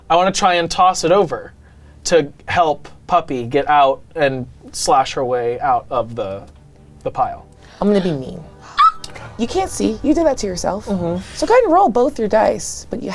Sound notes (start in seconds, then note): 8.6 squeaks